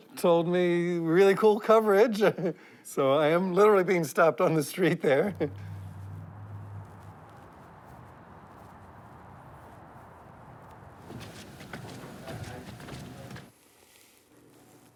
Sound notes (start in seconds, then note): 5.3 car whirring; 10.6 footsteps thudding